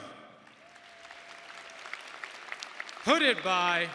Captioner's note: audience applauding